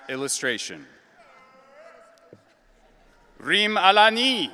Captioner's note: audience cheering